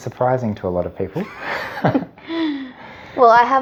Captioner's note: laughing